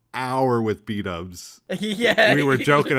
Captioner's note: laughing